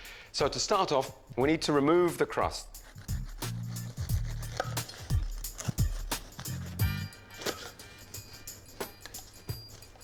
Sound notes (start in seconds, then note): 2.7 bread crunching; 2.9 gentle upbeat music